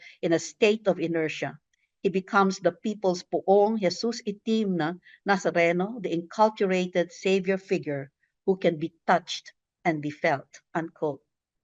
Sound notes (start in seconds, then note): 2.9 speaks in foreign language